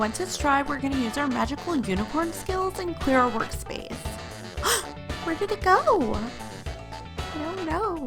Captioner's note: gasp